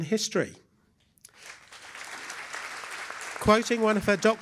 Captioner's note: applause